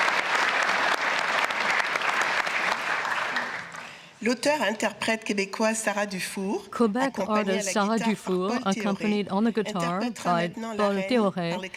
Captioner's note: applause